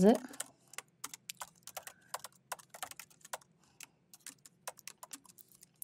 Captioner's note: keyboard clanking